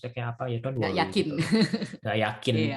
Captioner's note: laughs